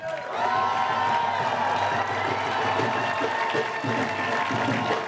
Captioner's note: crowd cheering and applauding